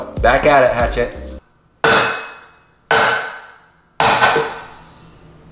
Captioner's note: metallic clanking; air gushing